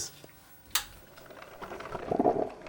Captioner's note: click; gurgling